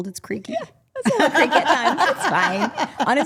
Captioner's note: group laughing